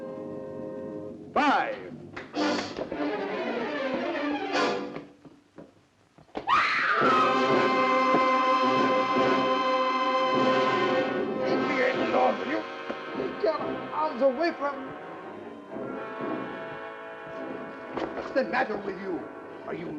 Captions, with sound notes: five, (crashes) (screams) (loud suspenseful music) - Get off you... Get out of the way. What's the matter with you? Are you mad?